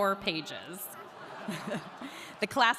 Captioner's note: audience laughing